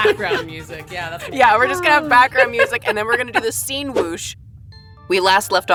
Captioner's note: whoosh